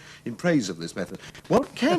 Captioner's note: laughs